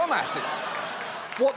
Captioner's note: laughter